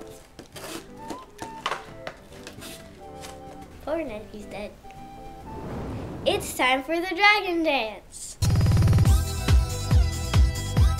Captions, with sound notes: - Poor Ned, he's dead. (fire blowing) It's time for the Dragon Dance. (upbeat music)